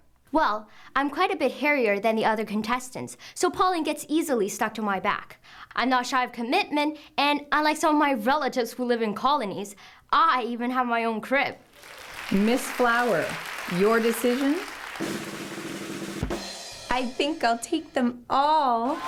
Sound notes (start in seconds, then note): 11.6 applause; 14.9 drum roll; 17.5 cheers and applause; 18.9 happy music